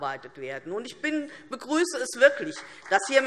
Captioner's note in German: Beifall DIE LINKE und SPD